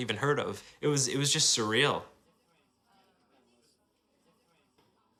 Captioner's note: students murmur quietly